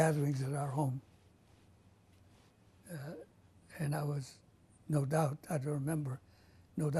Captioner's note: pauses for 3 seconds